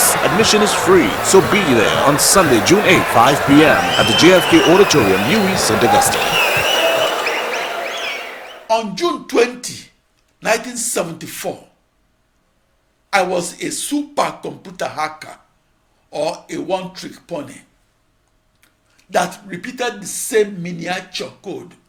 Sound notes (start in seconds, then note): 8.4 wild applause and cheering for 22 seconds